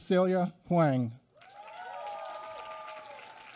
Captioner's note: applause